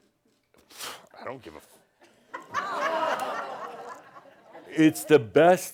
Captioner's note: audience says “Ohh!” and some chuckles